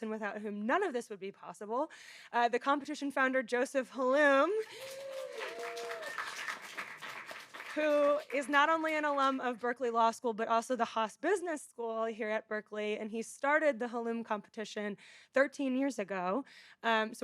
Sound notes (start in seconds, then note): 4.6 audience applauding; 4.6 audience cheering